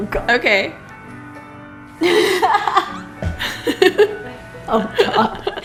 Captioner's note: laughs